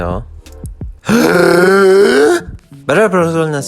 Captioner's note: extreme gasp